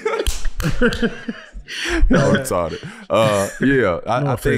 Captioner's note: group laughing; chuckles